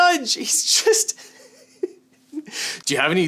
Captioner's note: laughing